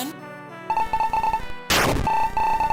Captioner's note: game beeping; game buzzes; game beeping